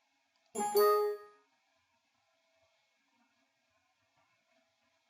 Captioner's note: electronic chirping sound